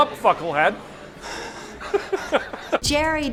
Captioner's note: laughter